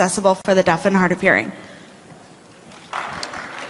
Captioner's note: applause